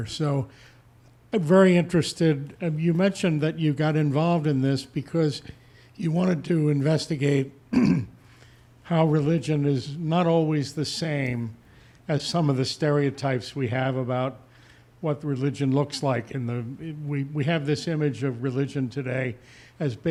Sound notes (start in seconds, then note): 7.7 clears throat